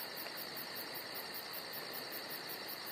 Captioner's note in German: Grillenzirpen